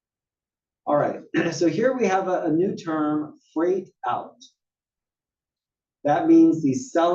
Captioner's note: cough